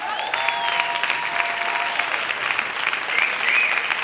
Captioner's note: applause